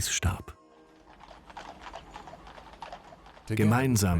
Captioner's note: horses' hooves clomping